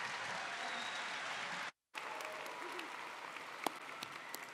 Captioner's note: audience applauding